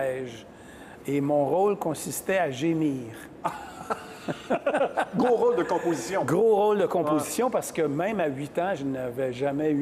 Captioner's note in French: rires